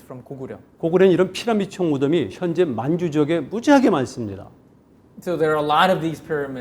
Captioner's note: speaking in Korean